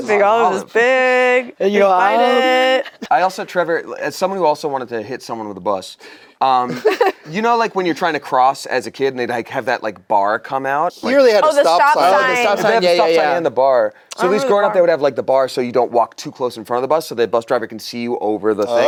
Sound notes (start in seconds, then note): 6.7 laughs